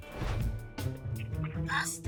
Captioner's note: air whooshing